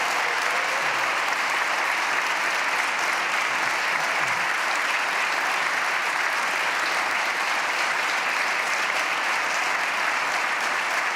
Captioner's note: applause